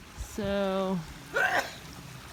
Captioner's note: sneezes